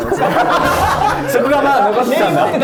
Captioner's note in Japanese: 一同：笑い